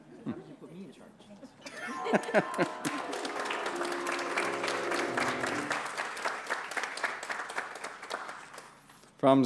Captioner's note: applause